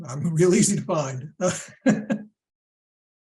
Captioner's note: laughter